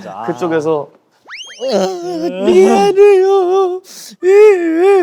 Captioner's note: big crying